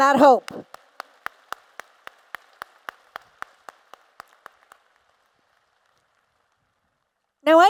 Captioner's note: applause